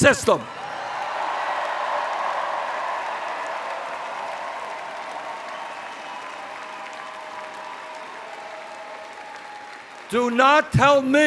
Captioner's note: cheers